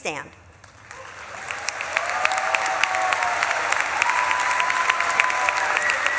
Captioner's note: audience claps and cheers